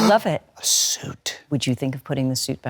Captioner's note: gasping